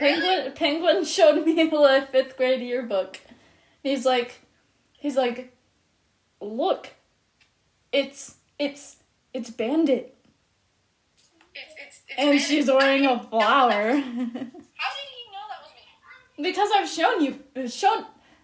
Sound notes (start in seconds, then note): 11.6 laughs